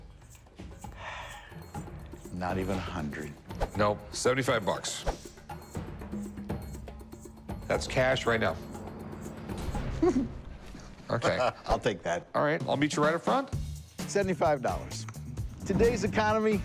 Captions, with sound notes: [sighs] Not even 100? No. 75 bucks. That's cash right now. [giggles] OK. I'll take that. All right, I'll meet you right up front. $75. Today's economy, yeah, you got be happy with $75.